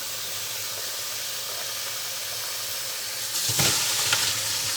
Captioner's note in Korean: 수돗물 흐르는 소리